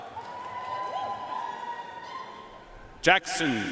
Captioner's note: audience cheering and applauding